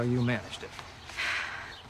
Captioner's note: sighs